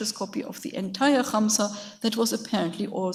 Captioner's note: speaks in a foreign language